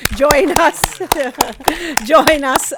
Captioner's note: audience applauds